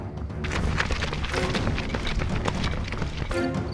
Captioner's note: intense music; footsteps